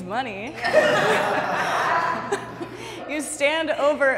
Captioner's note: group laughing